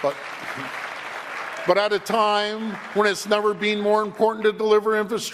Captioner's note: applause